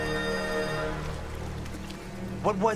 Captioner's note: water running